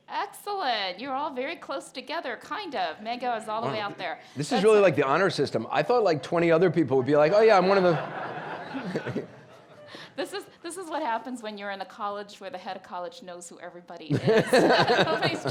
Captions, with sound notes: Excellent, you're all very close together, kind of. Megha is all the way out there. - This is really like the honor system. I thought like 20 other people would be like, oh yeah, I'm one of the. (laughing) (audience laughing) - This is what happens when you're in a college where the head of college knows who everybody is. (Anderson, audience laughing)